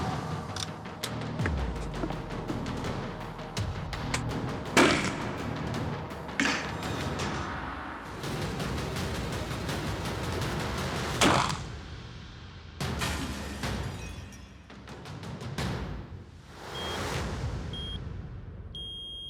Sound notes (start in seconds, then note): 6.4 metal clangs